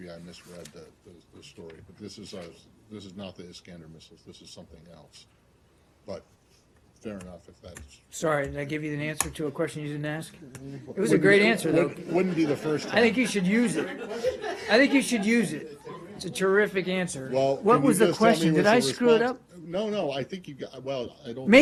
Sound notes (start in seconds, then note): 12.0 laughter